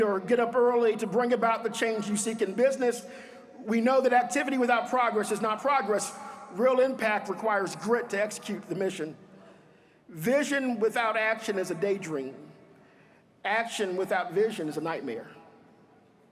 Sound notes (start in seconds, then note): none